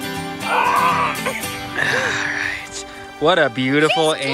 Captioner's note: woman groans